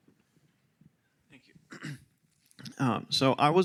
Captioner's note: clearing throat